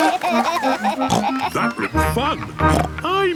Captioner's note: snorts; giggling; snorts